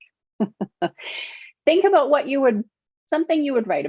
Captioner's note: chuckling